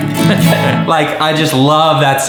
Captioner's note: laughs